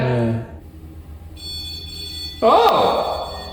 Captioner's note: REM-Pod beeping